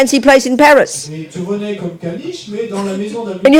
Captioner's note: speaking in French